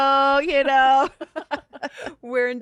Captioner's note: both laugh